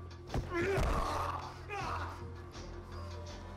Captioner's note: Ben and Tyler rustling; dramatic music; Ben yells; dramatic music